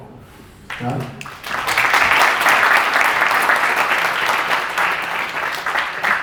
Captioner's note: audience applause